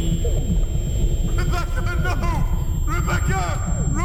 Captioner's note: voice caving from powerless desperation